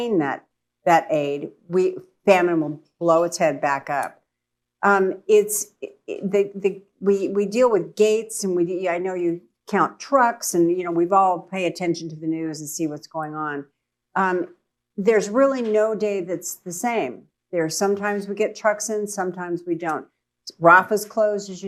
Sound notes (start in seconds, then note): none